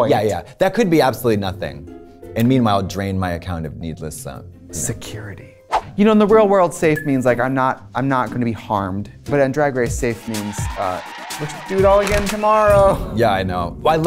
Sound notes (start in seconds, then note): 5.6 whooshing